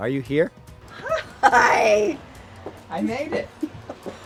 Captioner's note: laughs